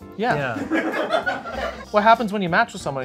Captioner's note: people laughing